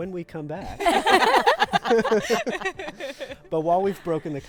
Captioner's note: group laughing